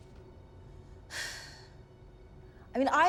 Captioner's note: sighs